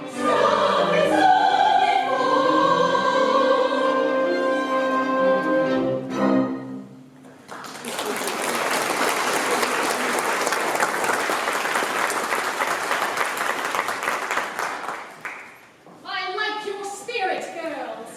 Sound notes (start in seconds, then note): 7.4 applause